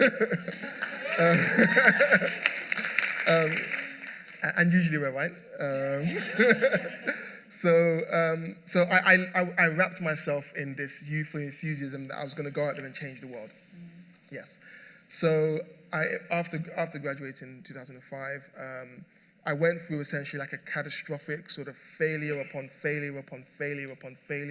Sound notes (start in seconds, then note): 0.0 laughter; 3.2 cheers and applause; 5.9 laughter